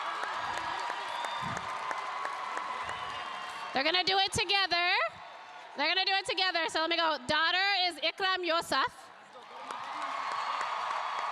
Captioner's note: cheers and applause